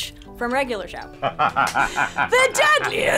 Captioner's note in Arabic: تضحك